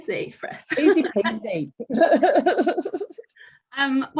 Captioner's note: laughing